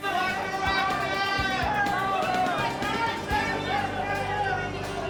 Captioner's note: crowd shouting